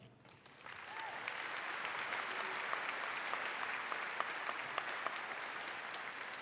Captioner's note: audience applauding